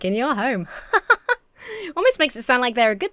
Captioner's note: laughs lightheartedly